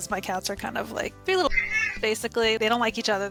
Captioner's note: meow